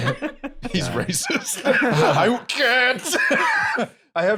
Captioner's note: laughing; laughs